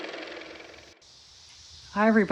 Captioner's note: car motor